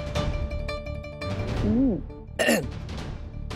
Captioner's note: clears throat